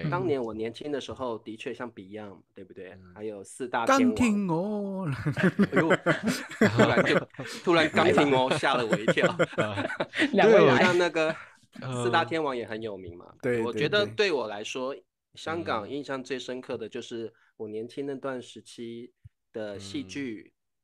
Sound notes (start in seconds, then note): 4.5 Cantonese